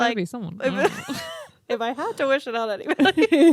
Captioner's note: both laugh